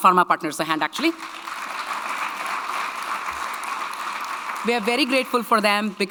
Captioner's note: audience clapping